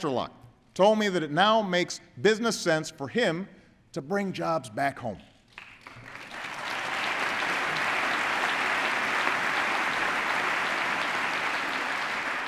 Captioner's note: applause